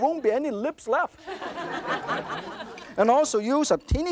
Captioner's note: audience laughter